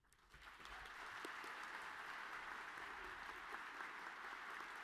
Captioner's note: audience clapping